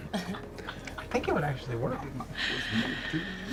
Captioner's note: laugh